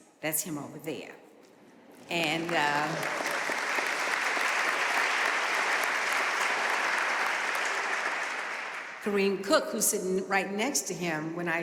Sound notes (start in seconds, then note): 2.0 audience applauding